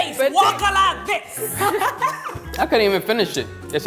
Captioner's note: laughing